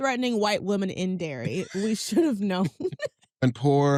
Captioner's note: both laugh